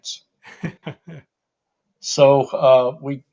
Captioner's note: laughs